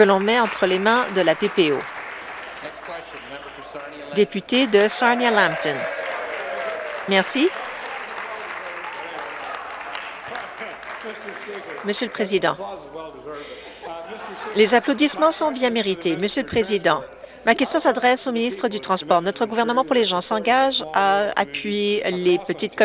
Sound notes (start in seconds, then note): 1.5 some Applause; 8.0 cheering